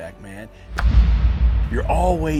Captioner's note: arrow strikes